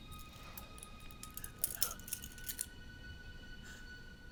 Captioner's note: metal cling